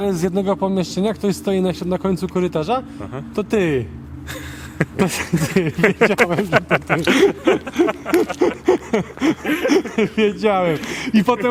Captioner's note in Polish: śmiech